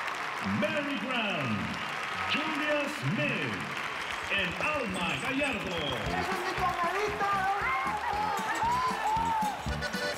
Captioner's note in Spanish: gritos y exclamaciones; aplausos